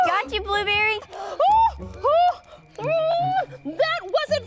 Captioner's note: Blueberry screams